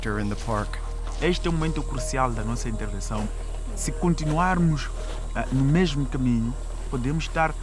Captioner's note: speaking Portuguese